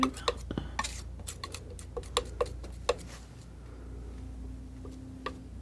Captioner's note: tapping